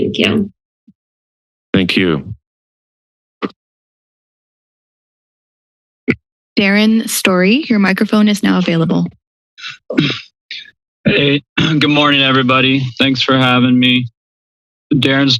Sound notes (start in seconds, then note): 2.6 silence